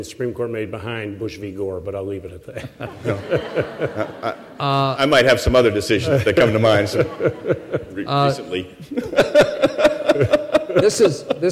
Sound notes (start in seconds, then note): 2.5 laughter; 8.7 chuckles